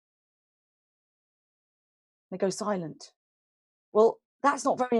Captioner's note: silence